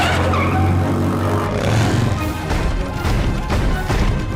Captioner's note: tires squeal; engine revs